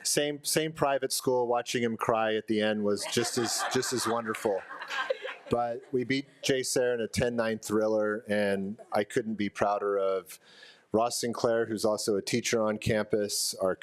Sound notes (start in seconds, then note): 4.9 attendees laughing